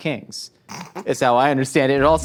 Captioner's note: laughing